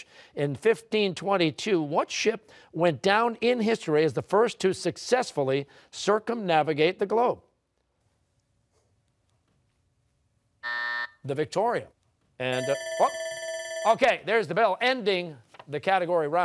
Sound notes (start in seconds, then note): 10.6 buzzer; 12.5 bell ringing